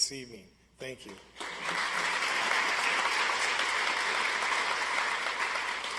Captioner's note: audience applauds